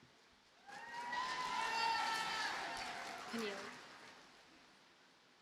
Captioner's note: audience cheers and applauds